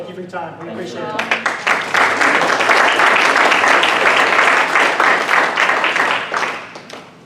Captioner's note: clapping